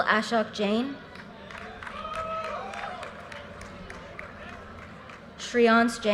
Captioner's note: audience cheers and applause